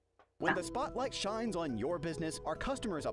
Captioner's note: voice-over